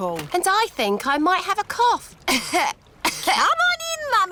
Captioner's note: coughs